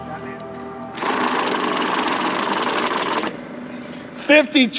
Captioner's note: money counter rumbling